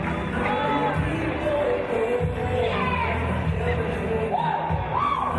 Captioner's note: team yelling exuberantly